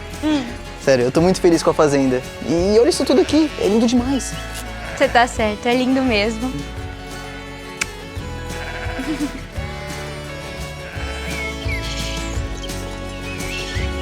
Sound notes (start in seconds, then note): 8.5 bleating; 10.7 birds